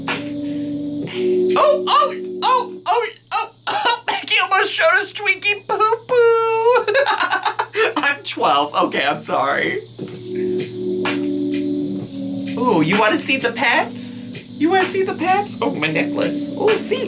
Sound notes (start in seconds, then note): 5.5 laughing; 11.2 soft music